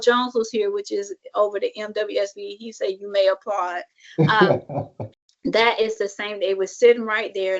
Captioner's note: laughs